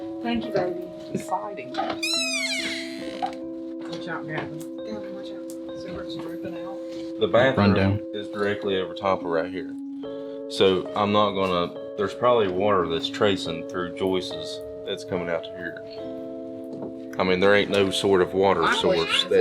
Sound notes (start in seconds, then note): 1.8 door creaking